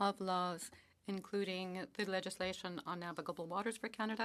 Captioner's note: speaking French